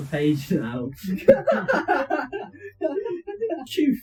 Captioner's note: laughing